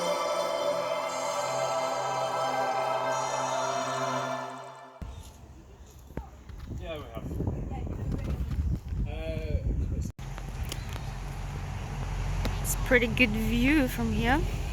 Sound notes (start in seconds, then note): none